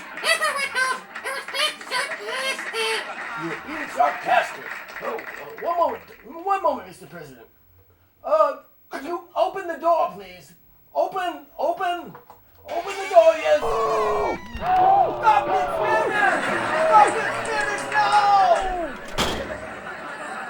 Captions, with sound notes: EVERYONE KNOWS I WAS BEING SARCASTIC. You were being sarcastic. One moment. One moment Mr. President. Uh, could you open the door please? Open, open, open the door yes. (squeaky door opens) (horrific screams and moans) Stop the experiments! Stop the experiments now! (door slams shut)